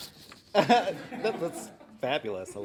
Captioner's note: laughing